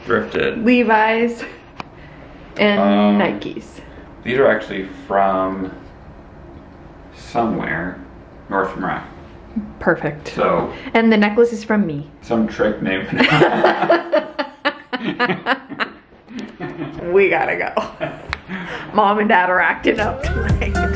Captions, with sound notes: - Levi's and Nike's. - These are actually from... somewhere, Nordstrom Rack. - Perfect. - So... And the necklace is from me. - Some trick named... (laughs) - We gotta go. Mom and dad are acting up tonight!